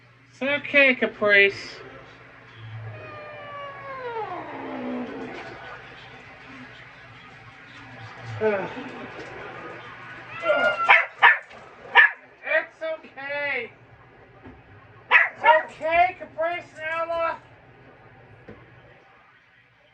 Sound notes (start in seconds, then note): 2.6 growls; 10.3 Caprice meows in discomfort and Ella barks